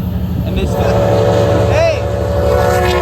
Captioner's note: very loud horn!